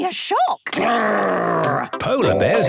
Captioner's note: loud growls